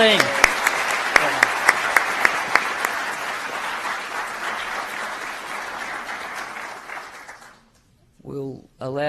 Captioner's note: applause